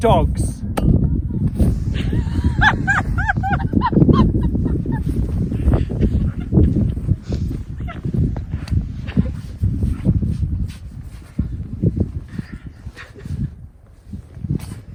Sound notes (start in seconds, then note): 1.0 laughter; 10.1 wind blows